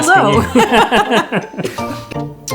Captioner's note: laughing